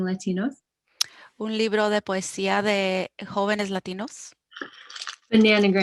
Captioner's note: speaking foreign language